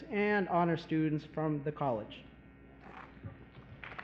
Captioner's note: applause